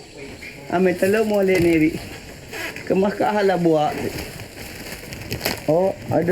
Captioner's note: speaking in foreign language